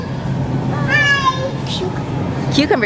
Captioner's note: toddler yelling